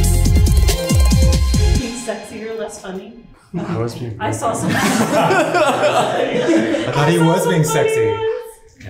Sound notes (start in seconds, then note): 3.1 speaking faintly; 4.6 laughing